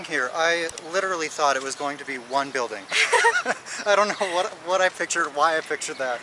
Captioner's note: laughter